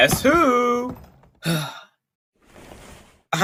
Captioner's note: Dante sighs in relief